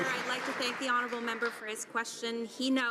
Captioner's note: some Applause